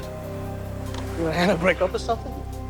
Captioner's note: speaking Spanish